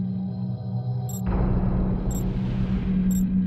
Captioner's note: beeping